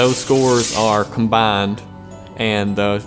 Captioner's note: rocket launching